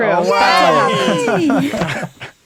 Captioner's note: guessers cheer